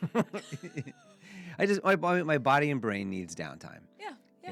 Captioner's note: laughing